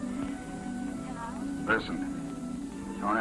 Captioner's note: on phone